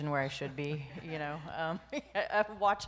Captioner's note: laughs